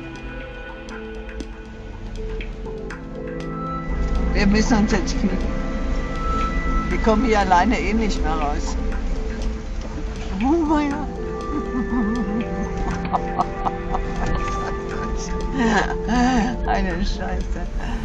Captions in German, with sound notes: Wir müssen uns jetzt fügen. Wir kommen hier alleine eh nicht mehr raus. (lacht:) Na ja. (lacht:) Eine Scheiße.